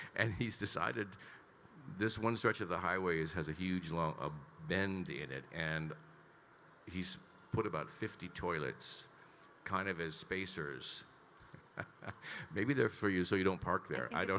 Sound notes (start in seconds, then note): 0.0 Kyle laughing; 9.8 laughs